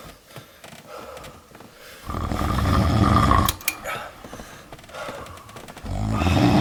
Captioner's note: Henrietta snoring; Larry gasping; Henrietta snoring